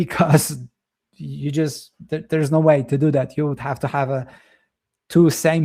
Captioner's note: chuckles